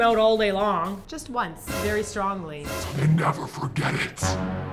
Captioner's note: demon voice